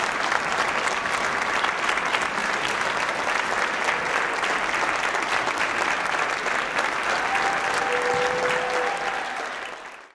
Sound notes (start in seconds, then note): 0.0 applause; 7.2 applause, cheering